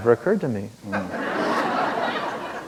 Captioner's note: laughter